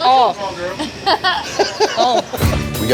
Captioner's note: laughter